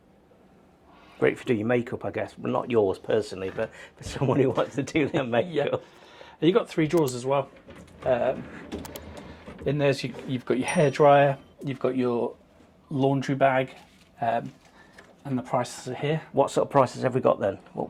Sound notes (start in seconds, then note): 4.0 laughs; 10.6 bell rings